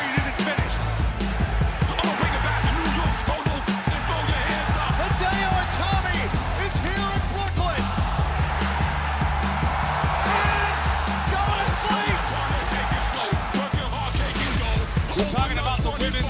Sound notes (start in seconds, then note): 9.5 cheers and applause